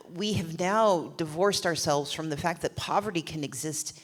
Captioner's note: none